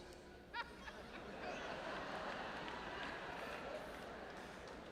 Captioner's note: audience members laughing